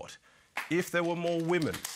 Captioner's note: applause